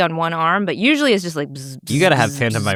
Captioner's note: buzzing